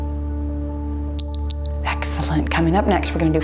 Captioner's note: timer beeps